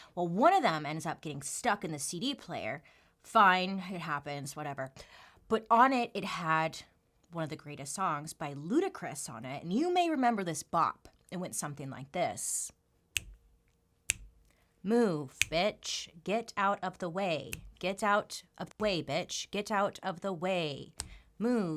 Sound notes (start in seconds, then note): 14.1 snaps